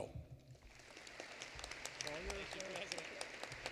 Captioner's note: applause